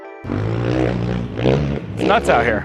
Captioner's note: motorcycle engine revving